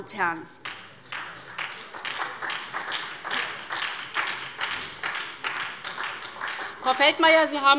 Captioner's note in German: Beifall SPD, vereinzelt BÜNDNIS 90/DIE GRÜNEN und Freie Demokraten